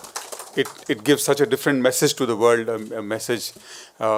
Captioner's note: applause